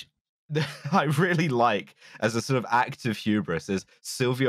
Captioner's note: laughs